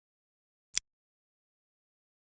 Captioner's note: click